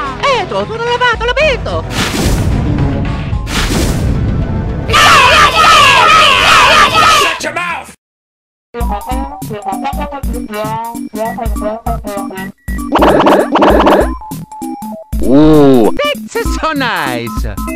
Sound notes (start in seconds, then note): 0.2 italian gibberish; 12.7 Koopa gibberish